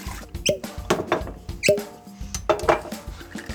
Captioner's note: corks pop